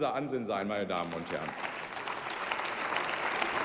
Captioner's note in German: Beifall bei der CDU/CSU